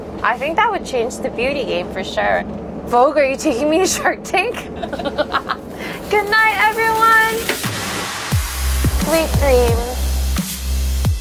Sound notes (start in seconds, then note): 4.6 laughing; 7.6 upbeat music